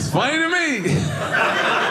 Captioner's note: audience laughing